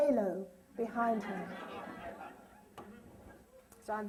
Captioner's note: laughter